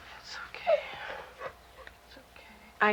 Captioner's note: crying